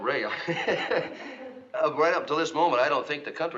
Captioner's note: chuckles